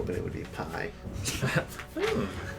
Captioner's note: chuckles